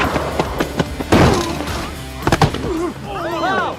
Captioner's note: all exclaiming; people exclaiming